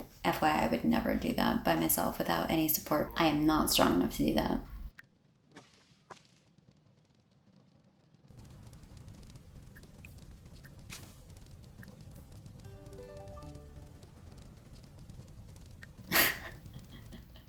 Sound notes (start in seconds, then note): 12.9 chime plays; 16.1 laugh